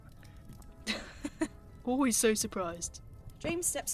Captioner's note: James laughs